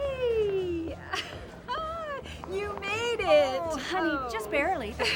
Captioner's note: laughs